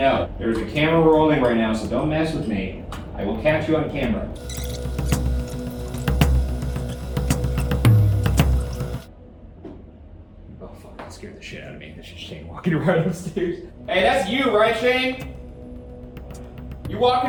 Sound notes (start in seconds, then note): 4.3 tense music; 4.4 videotape squealing; 13.4 laughs